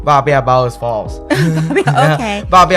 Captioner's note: Taiwanese